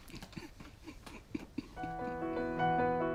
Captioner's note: chuckles